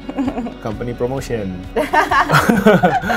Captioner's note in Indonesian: keduanya tertawa